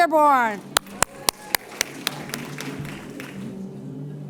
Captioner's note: applause & Cheers